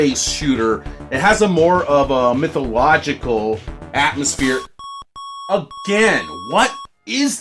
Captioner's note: annoying beeps